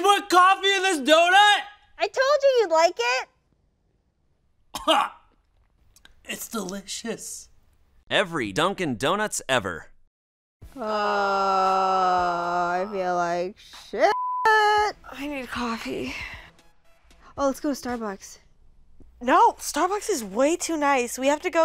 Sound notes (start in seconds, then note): 4.7 coughs; 10.8 both groaning; 14.1 beep